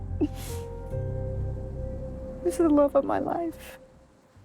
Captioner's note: crying